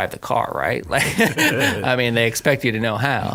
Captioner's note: he laughs